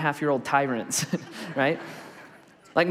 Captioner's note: congregation laughs